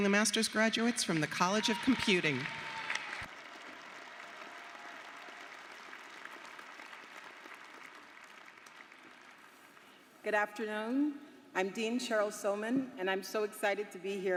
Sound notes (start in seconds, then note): 6.2 applause